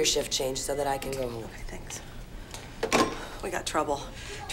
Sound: whispers; telephone clanks

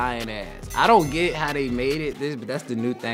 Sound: bell rings

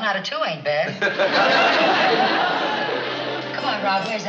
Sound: laughing

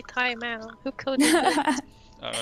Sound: haha

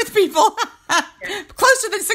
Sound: laughing

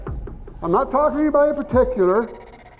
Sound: voiceover

